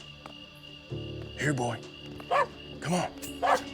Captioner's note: wiley barks